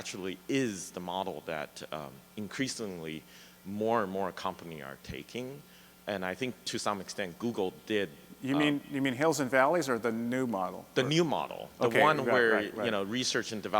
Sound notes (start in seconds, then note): 11.2 voiceover; 13.6 voiceover